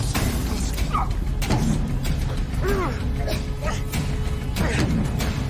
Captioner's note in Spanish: Quejidos